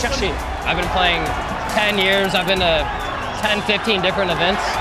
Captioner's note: in English; crowd cheering